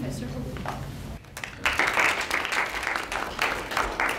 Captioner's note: applause